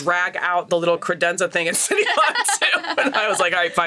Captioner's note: laughs